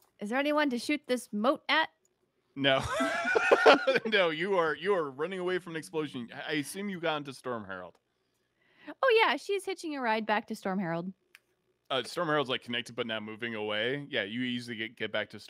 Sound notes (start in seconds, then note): 2.7 panelist chuckles